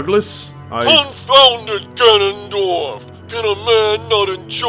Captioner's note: over communicator